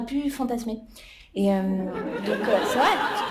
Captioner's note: laughter